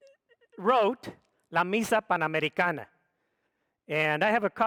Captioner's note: speaks foreign language